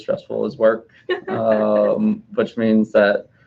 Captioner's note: laughing